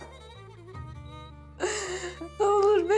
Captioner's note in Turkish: Ağlıyor